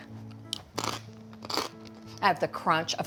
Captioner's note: crunching